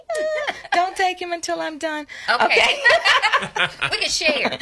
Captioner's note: laughs